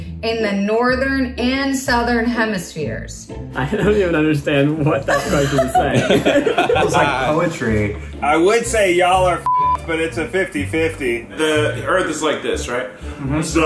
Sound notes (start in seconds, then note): 4.8 laughing; 9.4 beep